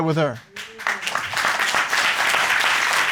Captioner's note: applause